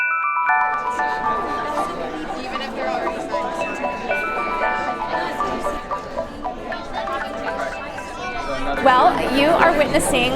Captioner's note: crowd murmuring